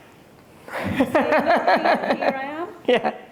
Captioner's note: laughing